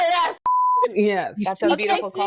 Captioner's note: beep